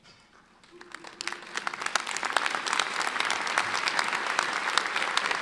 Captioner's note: audience applauding